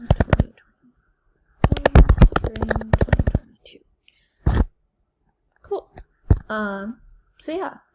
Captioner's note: typing sounds